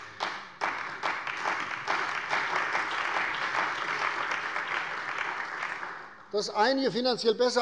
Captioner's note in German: Beifall bei der CDU und dem BÜNDNIS 90/DIE GRÜNEN